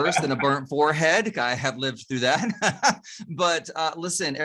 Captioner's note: chuckles